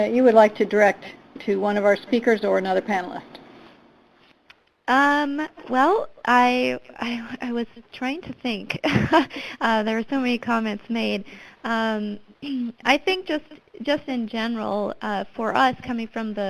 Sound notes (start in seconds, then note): 8.8 chuckles